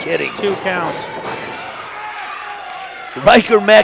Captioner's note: audience yells